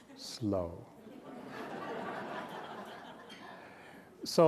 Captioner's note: laughter